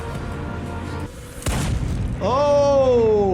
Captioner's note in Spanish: disparo de arma